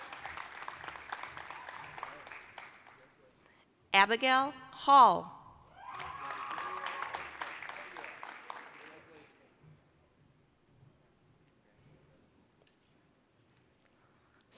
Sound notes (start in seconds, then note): 0.0 applause; 5.7 applause, cheering